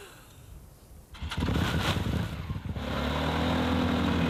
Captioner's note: chuckles; engine starts, revs